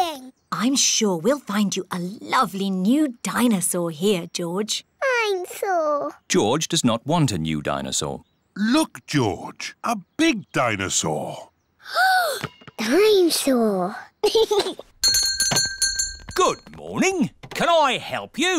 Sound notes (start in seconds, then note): 11.6 gasps; 14.2 giggles; 15.0 bell rings